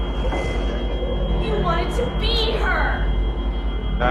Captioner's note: whoosh sound